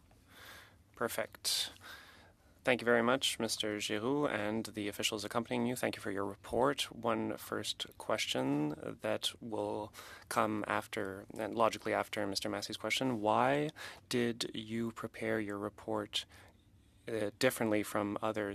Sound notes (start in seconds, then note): 2.2 speaking French